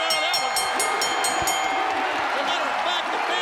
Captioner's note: bell ringing